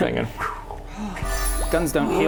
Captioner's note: fwoo